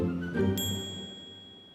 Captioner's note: bell dings